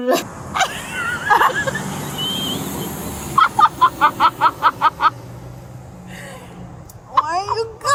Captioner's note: laughs; traffic noises; laughs